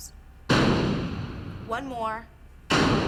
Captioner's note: loud bang